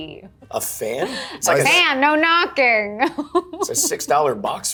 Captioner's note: laughs